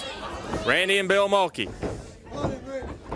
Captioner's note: crowd chatter